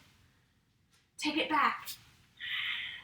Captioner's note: exhales